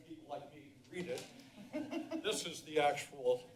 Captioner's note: laughter